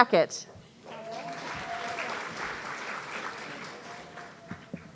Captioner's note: audience cheering